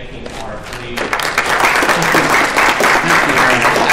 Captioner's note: applause